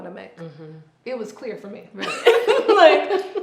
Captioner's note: both laughing